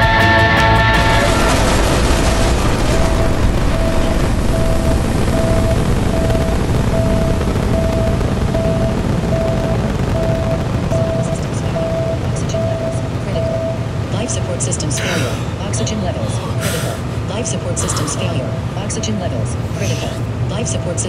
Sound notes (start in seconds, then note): 0.8 explosion and repeated warning beep; 9.7 audible warning; 14.9 astronaut gasps for air